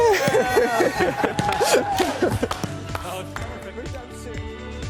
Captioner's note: applause